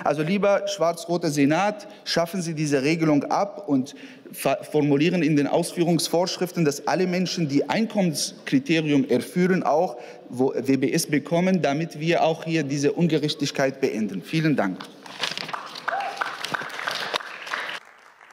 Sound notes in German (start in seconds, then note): 15.4 Beifall